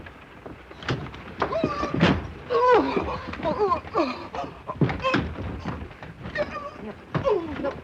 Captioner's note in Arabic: صرخات مكتومة